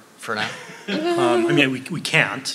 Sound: laughing

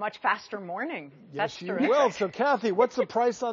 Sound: laughs

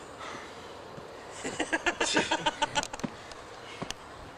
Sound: laughter

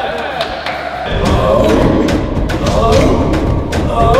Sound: chants

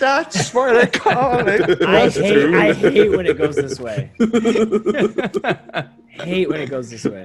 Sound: laugh

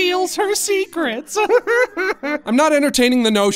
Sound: Goofball laughs

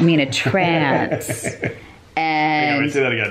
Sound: laughing

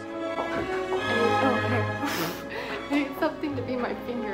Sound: laugh

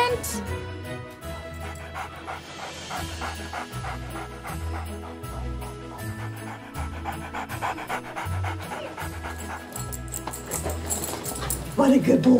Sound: dog panting

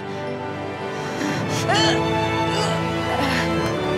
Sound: grunting, groaning

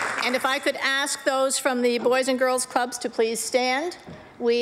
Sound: applause

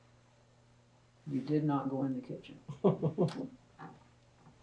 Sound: laughter

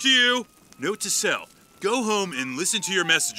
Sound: police siren

